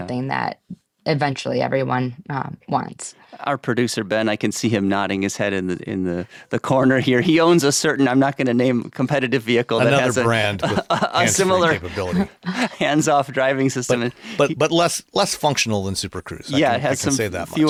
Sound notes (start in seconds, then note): 9.8 chuckles